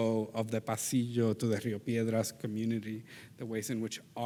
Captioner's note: speaks in Spanish language